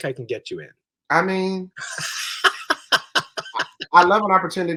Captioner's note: laughs